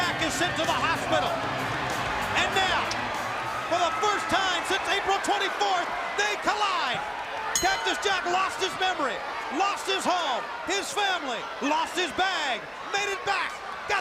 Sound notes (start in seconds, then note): 7.1 crowd cheering; 7.5 bell ringing